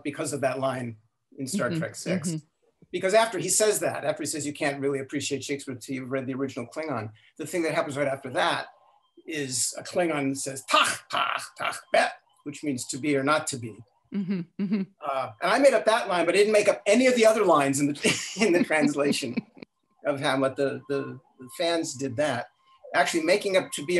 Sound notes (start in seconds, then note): 9.3 speaking in Klingon